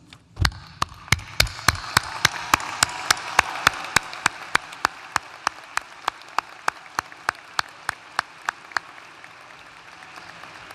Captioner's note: applause